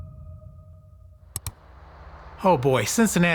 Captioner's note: click